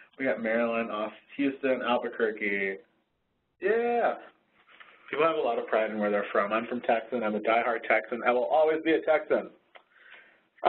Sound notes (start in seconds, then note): 5.2 voiceover